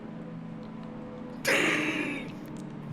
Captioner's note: laughs